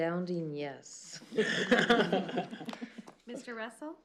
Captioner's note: laughter